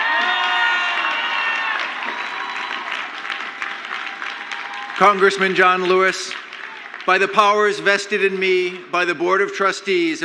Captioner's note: crowd applauds; crowd cheers